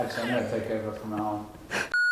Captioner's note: laugh from behind